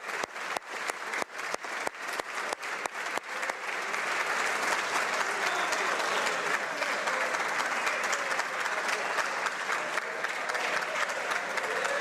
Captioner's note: applause